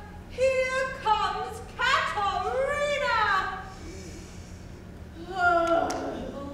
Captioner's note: groans